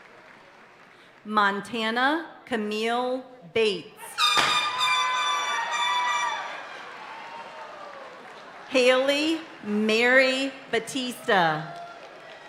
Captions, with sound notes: Montana Camille Bates. (party horn blaring) (audience cheering and applauding continues) Haley Mary Batista.